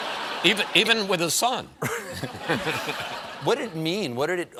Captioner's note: laughter